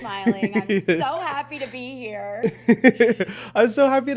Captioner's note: chuckles